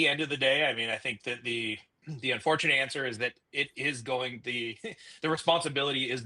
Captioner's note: chuckles